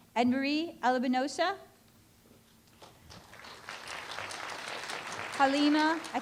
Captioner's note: applause